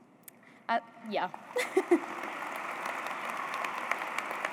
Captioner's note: applause